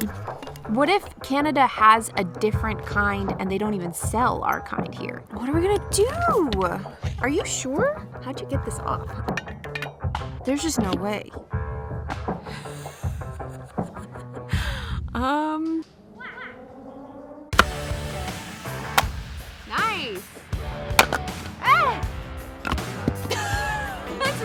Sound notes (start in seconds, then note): 12.5 laughs exasperatedly